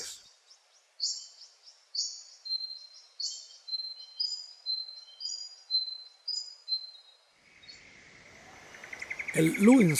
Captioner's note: birds chirps